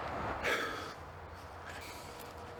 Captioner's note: sigh